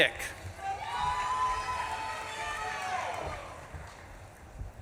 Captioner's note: audience claps and cheers